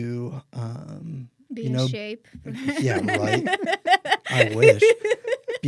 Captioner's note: laughs